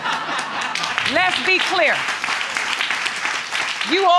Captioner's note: audience laughing; applauding